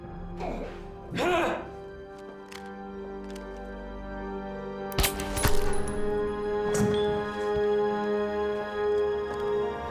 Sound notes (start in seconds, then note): 3.2 guns firing; 3.2 suspenseful music